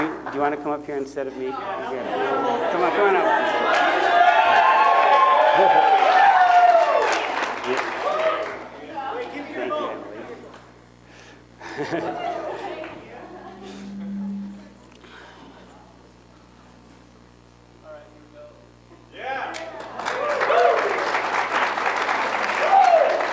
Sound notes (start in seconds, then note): 3.2 chatter; 19.5 applause